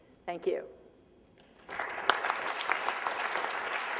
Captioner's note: applause